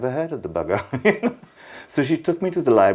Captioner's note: laughing